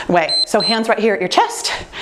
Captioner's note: timer beeps